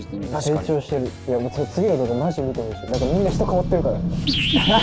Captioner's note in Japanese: 一同：笑い